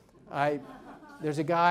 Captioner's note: audience laughs